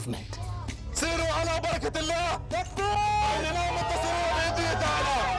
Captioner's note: Arabic spoken audio